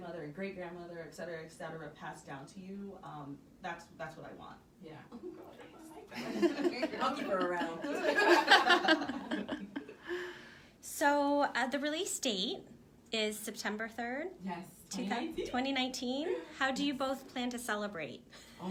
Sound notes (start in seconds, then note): 8.4 laughter